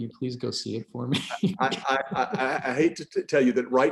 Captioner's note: laughing